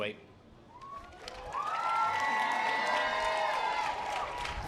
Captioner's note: audience applause